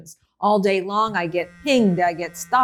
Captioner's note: phone vibrates